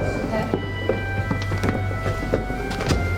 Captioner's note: dramatic music; footsteps